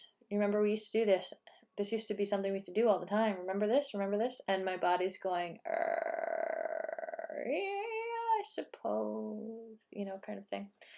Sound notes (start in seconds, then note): 5.8 cranky, still sleeping sounds